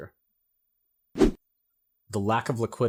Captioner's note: air whooshing